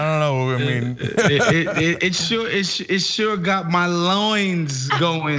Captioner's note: laugh